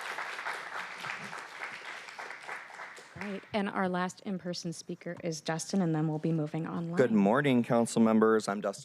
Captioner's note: applause